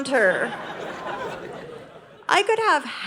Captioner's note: audience laughing